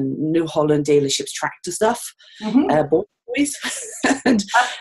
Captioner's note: audio skips 0:05:12